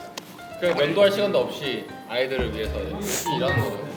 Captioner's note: gasping for air